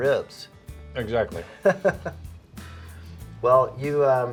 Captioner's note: laughs